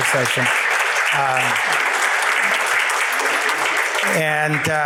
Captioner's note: audience applauding